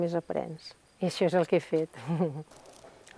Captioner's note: laughs